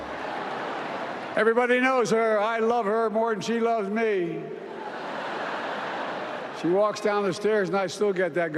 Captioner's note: applause